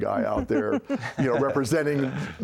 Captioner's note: laughter